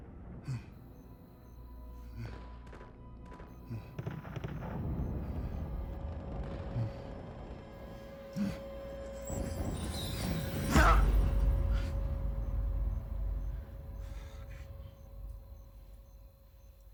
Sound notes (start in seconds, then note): 3.7 dramatic music building; 10.7 yells in fear